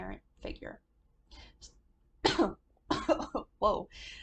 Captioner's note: coughs